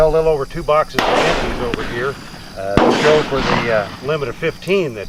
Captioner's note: bang